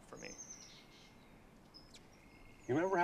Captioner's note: bird chirp